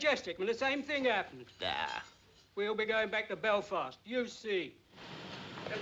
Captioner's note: scoffs